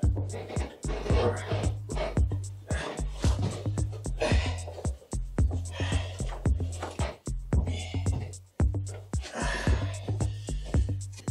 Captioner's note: exertion sounds